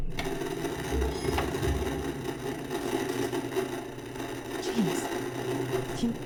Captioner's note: VCR whirs; object creaks upstairs; static buzzing